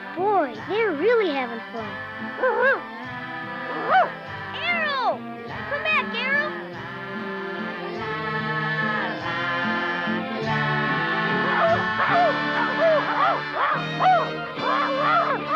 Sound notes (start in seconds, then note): 3.8 Arrow barks; 11.5 Arrow barking